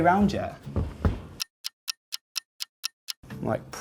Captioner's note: clock ticking